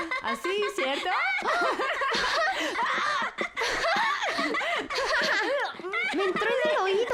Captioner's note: laughter